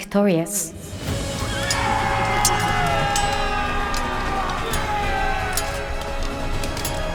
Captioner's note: dramatic victorious music; soldiers cheering